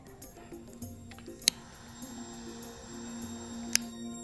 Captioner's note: lighting candle